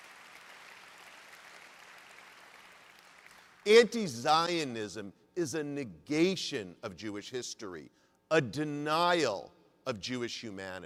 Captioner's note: applause